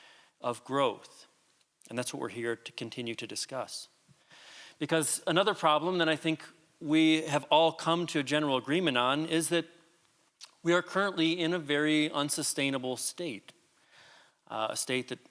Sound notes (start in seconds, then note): none